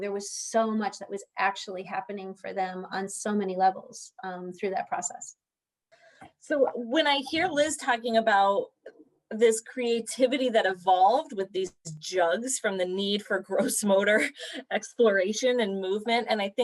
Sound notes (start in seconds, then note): 13.4 laughter